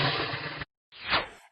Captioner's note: whoosh!